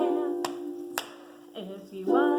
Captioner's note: hand slapping